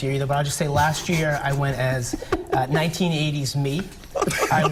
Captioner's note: laughter